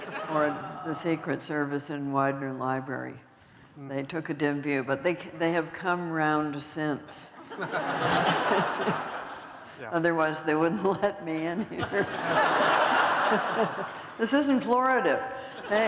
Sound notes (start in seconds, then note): 7.4 laughter